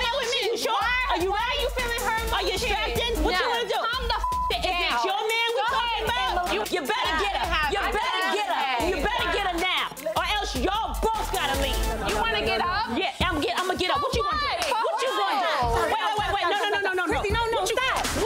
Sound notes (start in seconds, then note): 4.1 beep